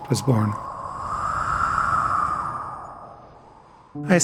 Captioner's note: wind sounds